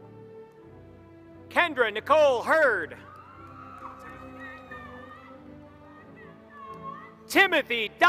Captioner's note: applause